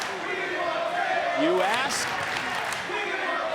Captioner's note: clapping; clapping